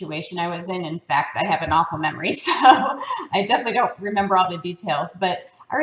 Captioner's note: laugh